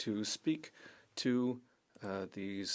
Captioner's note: speaking French